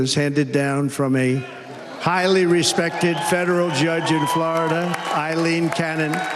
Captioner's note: applause